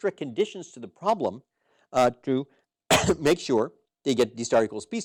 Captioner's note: cough